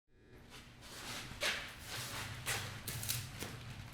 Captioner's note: foot Dragging